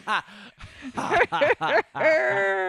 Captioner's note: Luke and Leia cackle